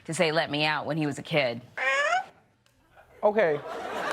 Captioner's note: squawks